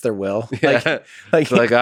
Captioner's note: Lex laughs